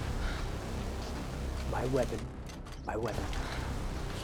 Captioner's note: speaking Slavic language